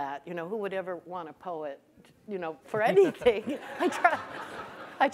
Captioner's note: laughs; audience laughing